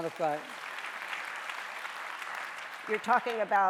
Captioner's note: audience applauding